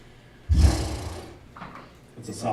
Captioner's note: Winkly makes sound of frustration